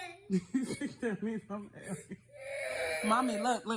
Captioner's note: mother laughs